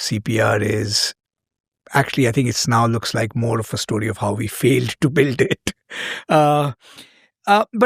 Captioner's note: chuckles